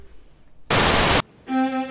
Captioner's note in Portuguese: chiado